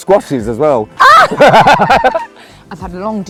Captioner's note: laughter